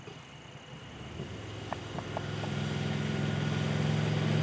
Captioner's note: crickets chirping; motorcycle engine humming